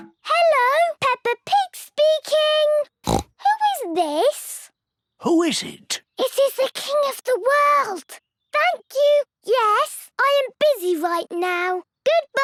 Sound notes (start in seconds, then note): 3.0 snorts